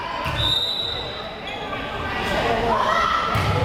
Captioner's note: whistle blares